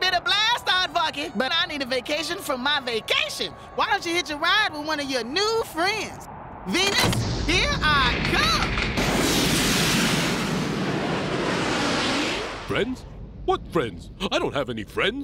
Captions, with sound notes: IT'S BEEN A BLAST, AARDVARKY, BUT I NEED A VACATION FROM MY VACATION. WHY DON'T YOU HITCH A RIDE WITH ONE OF YOUR NEW FRIENDS? VENUS, HERE I COME! (rocket roars) FRIENDS? WHAT FRIENDS? I DON'T HAVE ANY FRIENDS.